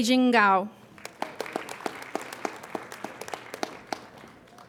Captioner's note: applauding